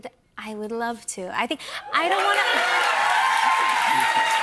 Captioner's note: cheers and applause